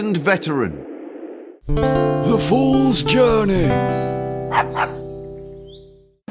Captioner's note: dog barks